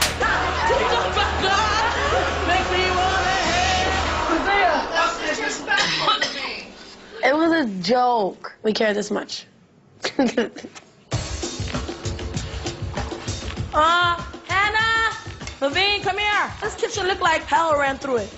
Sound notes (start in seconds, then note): 0.3 laughing; 10.0 giggles